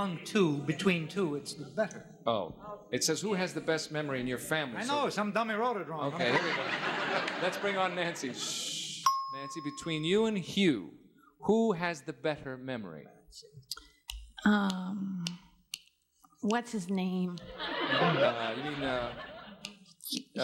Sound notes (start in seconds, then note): 15.2 fingers snapping